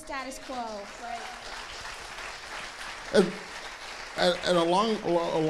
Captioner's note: audience clapping